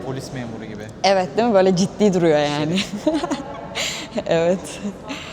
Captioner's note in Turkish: kahkaha